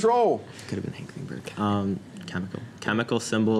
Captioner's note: whispers